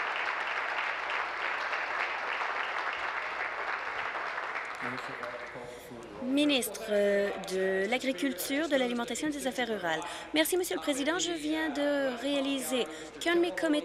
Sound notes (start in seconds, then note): 0.0 applause